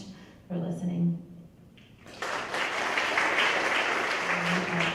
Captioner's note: applause